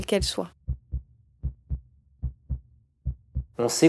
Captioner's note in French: battement de cœur